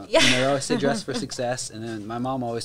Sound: laughs

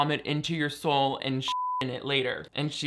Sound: beep

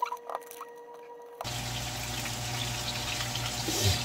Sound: grilling the seasoned meat

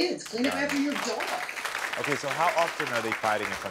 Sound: audience applauding

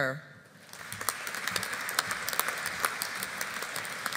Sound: audience applauding

